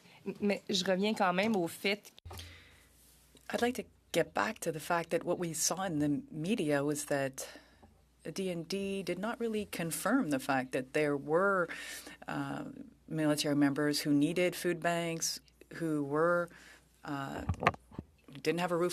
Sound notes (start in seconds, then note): 5.6 speaking French